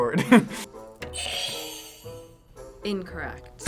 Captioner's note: laughs; buzzer rings